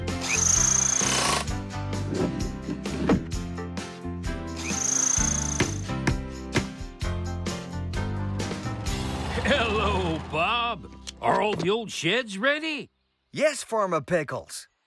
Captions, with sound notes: ( Drill Whirring ) ( Thump! ) ( Drill Whirring ) ( Hammer Tapping ) HELLO, BOB. ARE ALL THE OLD SHEDS READY? YES, FARMER PICKLES.